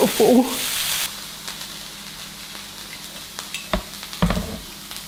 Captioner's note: steak sizzling